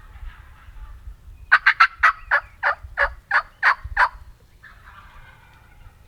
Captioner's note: turkeys gobble from a closer position